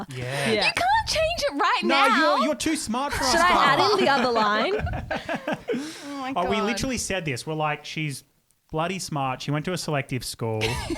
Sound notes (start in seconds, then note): 5.6 laughing together